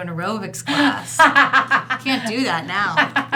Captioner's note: laughing